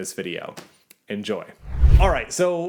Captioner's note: air whooshing